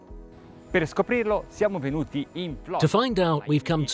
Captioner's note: speak Italian